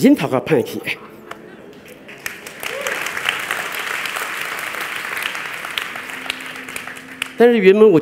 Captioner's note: applause